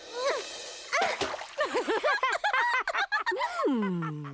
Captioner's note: Swiftlets laugh